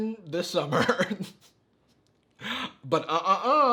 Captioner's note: laughs